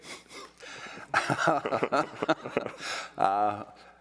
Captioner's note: both laughing